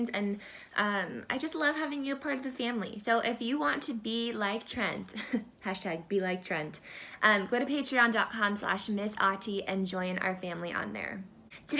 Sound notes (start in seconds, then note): 5.2 laughter